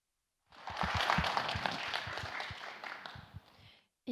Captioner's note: aplodit